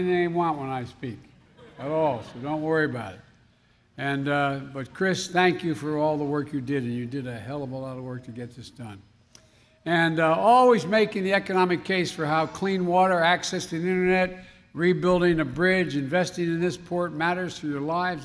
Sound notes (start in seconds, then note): 1.3 laughter